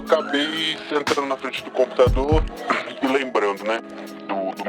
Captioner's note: coughing